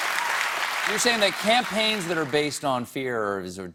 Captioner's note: cheers and applause